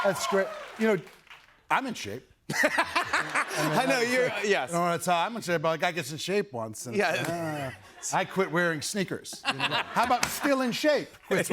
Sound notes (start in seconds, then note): 0.0 cheers and applause; 2.5 laughter